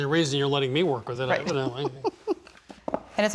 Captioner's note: laughing